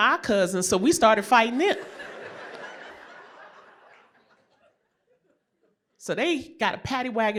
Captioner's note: laughter